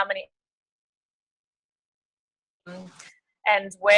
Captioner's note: audio cuts out